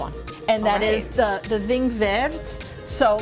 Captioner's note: speaking foreign language